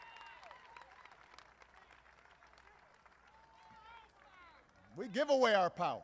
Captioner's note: applause